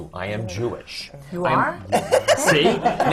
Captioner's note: laughter